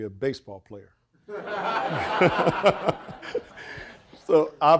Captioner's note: audience laughing